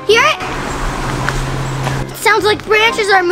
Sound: rustling

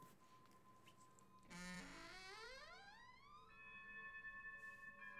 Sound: door creaking

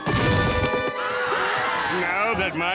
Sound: screaming

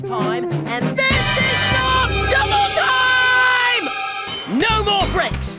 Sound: screaming

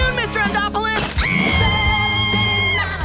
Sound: screaming

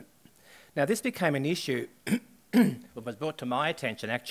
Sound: coughs

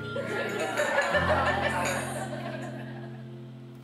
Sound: laughing

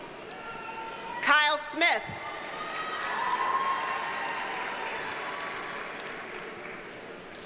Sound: audience cheers and applauds

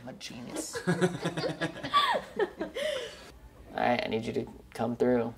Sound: laughing

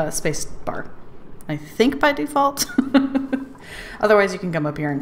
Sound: laughs

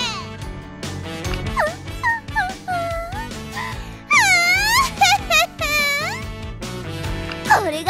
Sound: increasingly loud impish laughing

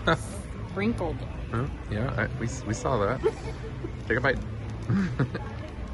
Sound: giggles

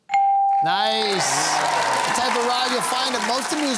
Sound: cheering and applause

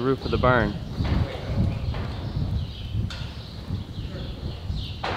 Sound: birds chirping

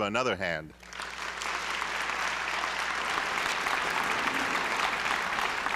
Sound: applause

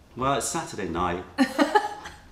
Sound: laughter

